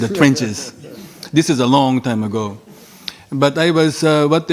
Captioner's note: audience laughing